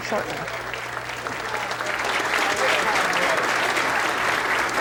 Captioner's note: applause